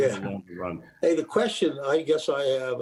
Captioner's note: laughs